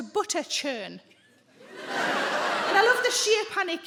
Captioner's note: audience laughs